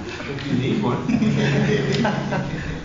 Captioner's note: laughter